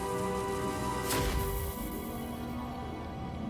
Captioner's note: explosion